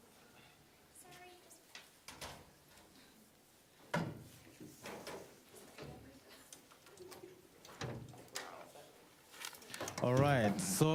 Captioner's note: students chattering